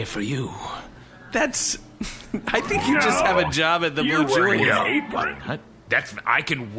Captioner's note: laughing